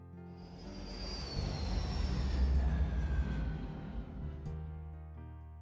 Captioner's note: light and Inspirational Music; airplane Sounds